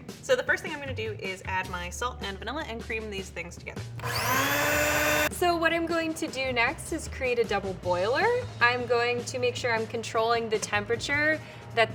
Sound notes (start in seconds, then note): 4.0 mixer whirs